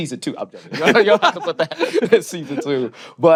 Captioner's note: laughter